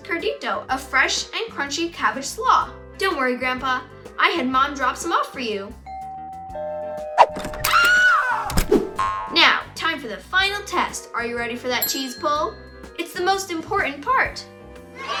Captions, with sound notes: curtido, a fresh and crunchy cabbage slaw. Don't worry, Grandpa. I had mom drop some off for you. (door bell rings) (Women screams) Now time for the final test. Are you ready for that cheese pull? It's the most important part.